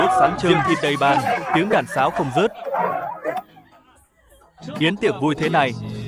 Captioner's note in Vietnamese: tiếng cười